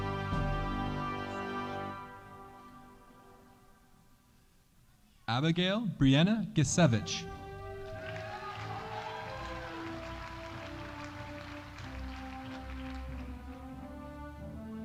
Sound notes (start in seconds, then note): 7.5 audience applauding